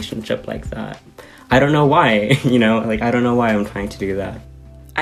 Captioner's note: laughter